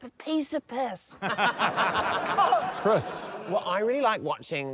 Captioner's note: laughter